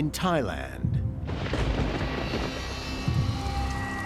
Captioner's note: lightning crackles